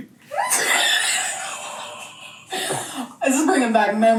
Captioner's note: laughs